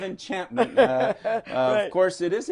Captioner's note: laughter